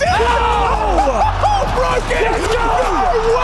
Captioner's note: commentators clamoring